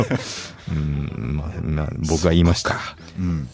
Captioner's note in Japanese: 鼻息